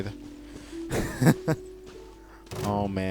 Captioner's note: laughs